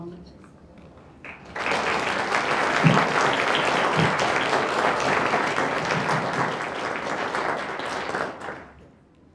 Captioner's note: applause